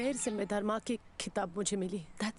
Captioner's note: none